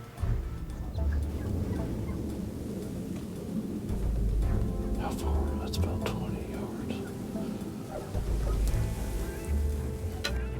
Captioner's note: whispering